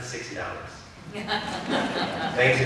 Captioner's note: laughter